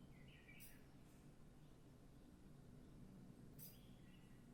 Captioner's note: birds singing; birds singing